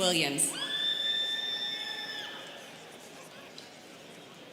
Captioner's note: students cheering